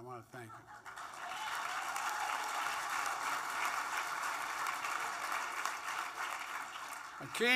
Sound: applause

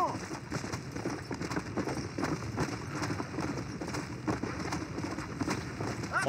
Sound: horse galloping

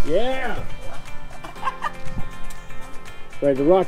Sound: laughs

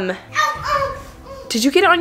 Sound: whining

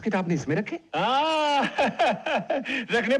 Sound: laughing

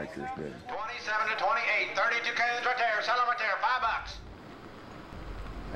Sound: auctioneering

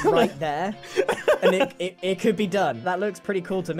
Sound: laughs

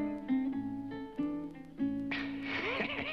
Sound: cackles

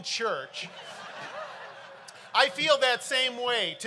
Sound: crowd laughing

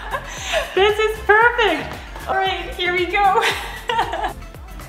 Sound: laughter

